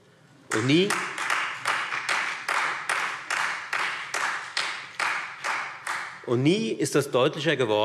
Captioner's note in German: Beifall Freie Demokraten und vereinzelt SPD